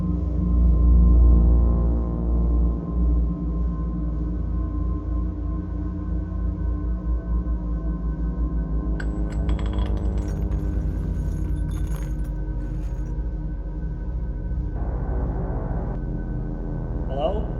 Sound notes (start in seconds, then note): 9.0 bullets clinking; 14.7 ominous music continuing